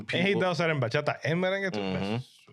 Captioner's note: speaking In Foreign Language